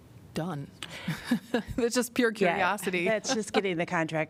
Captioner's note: laughter